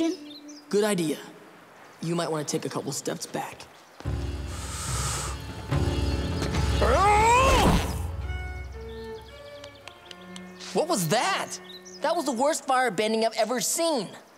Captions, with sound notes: Good idea. You might want to take a couple of steps back. [grunting] [clapping] What was that? That was the worst firebending I've ever seen.